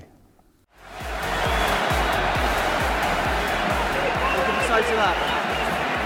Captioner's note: fans cheering; upbeat music